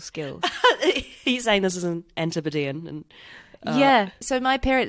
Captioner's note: laughs